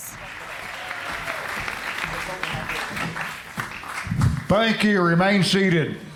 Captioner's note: applause